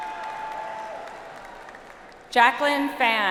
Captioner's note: audience applauds